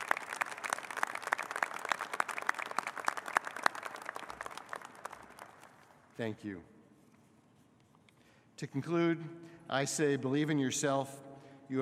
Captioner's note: applause